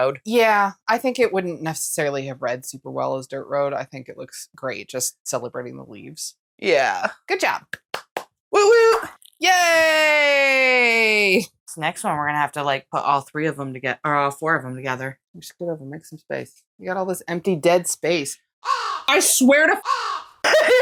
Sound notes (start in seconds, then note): 18.6 caw